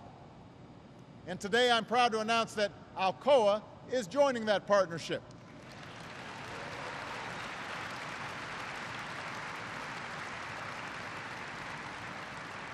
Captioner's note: applause